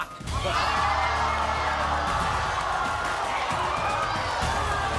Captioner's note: crowd screaming